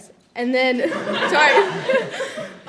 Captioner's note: audience laughing